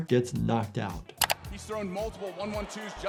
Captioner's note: camera shutter snaps